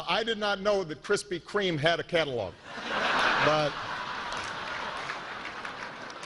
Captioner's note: laughter